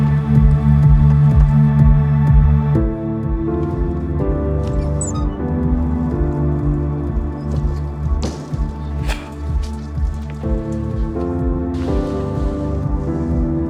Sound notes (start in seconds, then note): 1.6 gentle upbeat music; 8.1 wooden door thuds; 10.4 gentle piano music